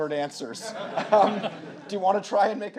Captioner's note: audience laughing